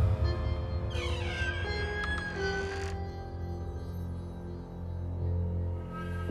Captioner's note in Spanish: Chirrido de la ventana